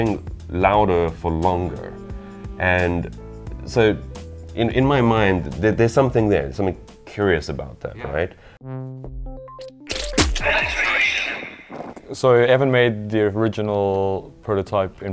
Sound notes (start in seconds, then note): 9.8 splat